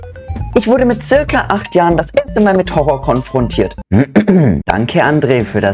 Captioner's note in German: räusper